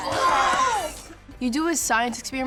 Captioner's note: cheering